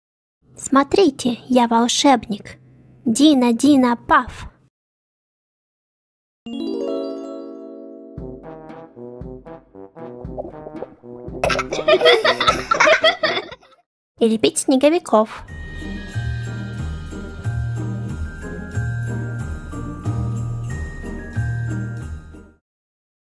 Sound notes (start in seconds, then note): 6.4 happy music; 11.4 laugh; 15.4 christmas music